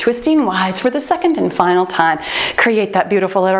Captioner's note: timer beeps